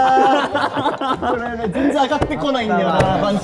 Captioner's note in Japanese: 一同：笑い